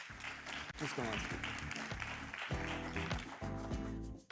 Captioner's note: applause